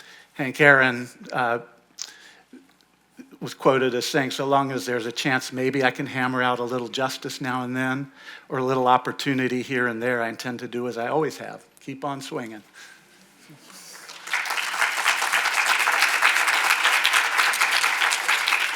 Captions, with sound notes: Hank Aaron was quoted as saying, "So long as there's a chance, maybe I can hammer out a little justice now and then or a little opportunity here and there. I intend to do as I always have, keep on swinging." (audience applauding)